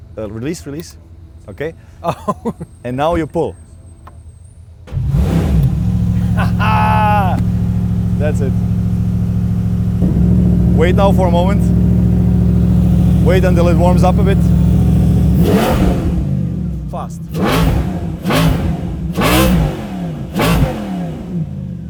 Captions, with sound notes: Release, Release. OK. - Oh! (LAUGHS) - And now you pull. (ENGINE STARTS) Haha! That's it. Wait now for a moment. Wait until it warms up a bit. (REVS THE ENGINE) Fast. (CONTINUES TO REV)